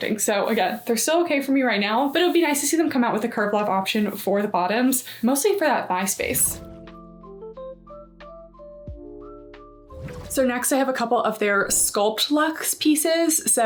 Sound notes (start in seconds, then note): 6.1 graphic whooshing; 6.4 smooth music; 9.9 graphic whooshing